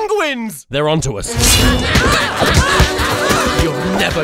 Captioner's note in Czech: křik